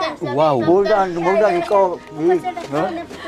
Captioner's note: jokingly